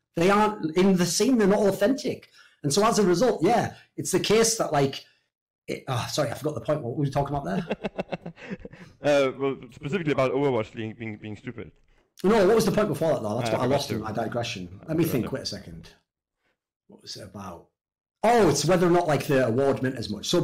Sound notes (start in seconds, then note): 7.4 laughs